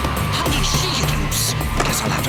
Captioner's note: labored breathing